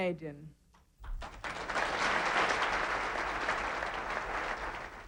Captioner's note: audience applauding